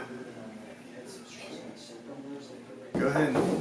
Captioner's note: office chatter